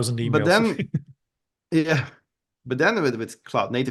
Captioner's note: chuckling